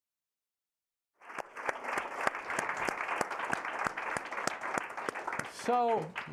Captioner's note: applause